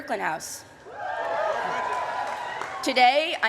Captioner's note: cheering